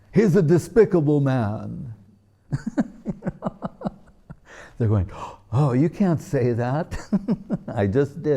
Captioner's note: laughing